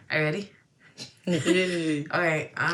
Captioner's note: laughter